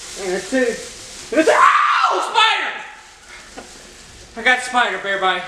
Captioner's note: screams